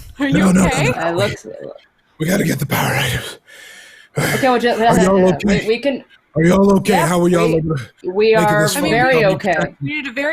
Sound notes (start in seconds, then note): 3.4 breathes heavily